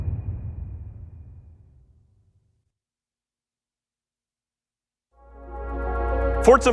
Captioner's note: dramatic sound